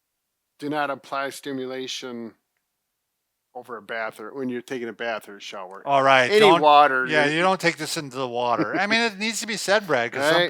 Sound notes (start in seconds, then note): 8.4 laughs